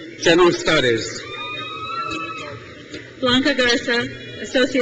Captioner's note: crowd cheers